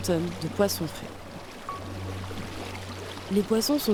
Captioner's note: splash sounds